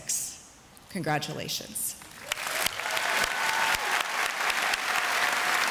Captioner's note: audience applauds